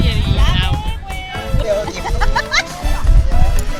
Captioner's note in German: lacht